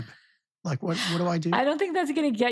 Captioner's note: laughing